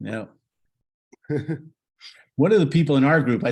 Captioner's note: laughs